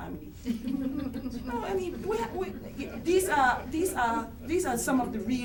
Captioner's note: background chuckles